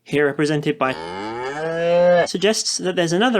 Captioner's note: mooing noise